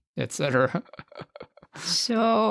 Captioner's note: laughs